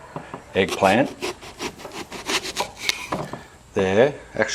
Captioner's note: slicing